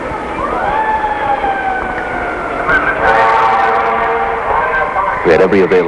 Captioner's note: sirens in distance